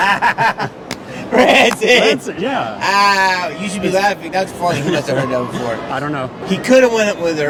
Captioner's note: laughs